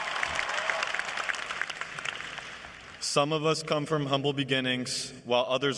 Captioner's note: cheers and applause